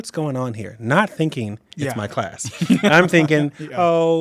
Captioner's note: laughs